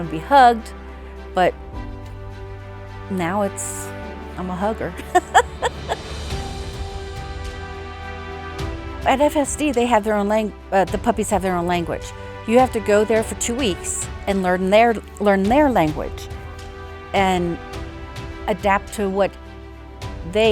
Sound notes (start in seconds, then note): 5.0 laughing; 6.6 inspiring music